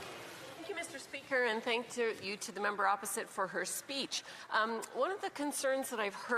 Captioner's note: speaking French